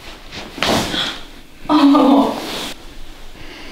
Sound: the girl screams after massage

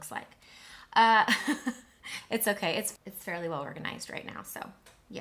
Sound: chuckles

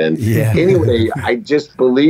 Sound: chuckle

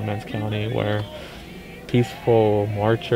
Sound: all chanting

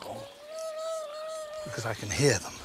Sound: worm Noises

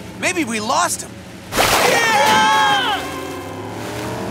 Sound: screaming

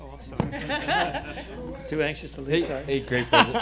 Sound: laughing

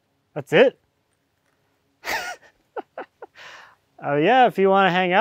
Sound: laughs

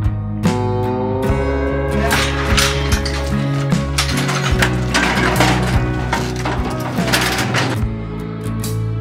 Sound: ♫ clanking of gates and directing cattle ♫

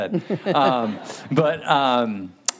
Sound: audience laughing

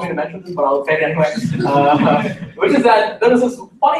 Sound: laughter

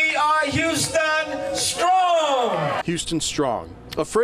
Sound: cheering

